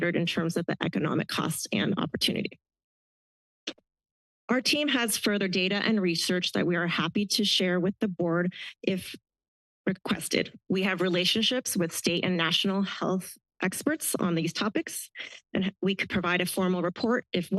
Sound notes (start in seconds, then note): 2.8 pause